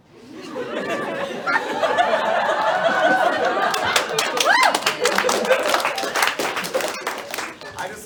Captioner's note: realizing laughter and applause